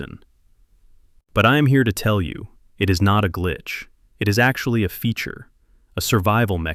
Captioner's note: deep breath